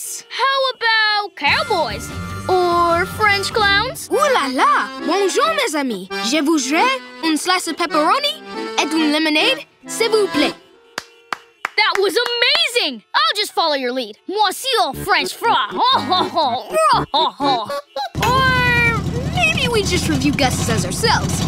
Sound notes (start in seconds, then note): 10.9 clapping; 14.9 laughing